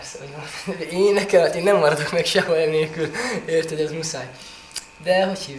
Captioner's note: laughs